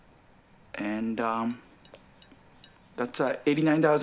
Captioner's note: bell dings